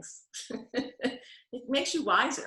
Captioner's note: laughing